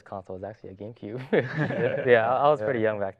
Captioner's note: laughs